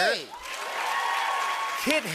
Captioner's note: cheers and applause